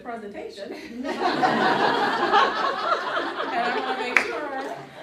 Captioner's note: audience laughing